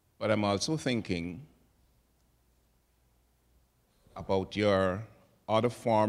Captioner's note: none